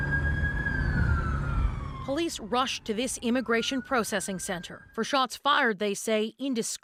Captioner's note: sirens